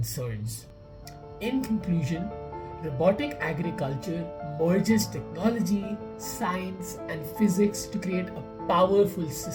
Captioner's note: voice-over